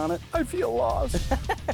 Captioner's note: voiceover; laughs